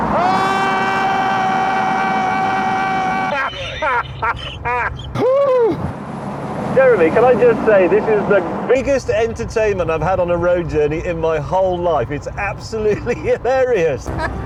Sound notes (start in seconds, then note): 0.0 jeremy screams; 2.8 james laughs; 5.1 gasps; 14.2 james laughs